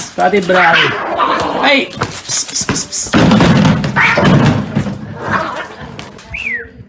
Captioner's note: cats fighting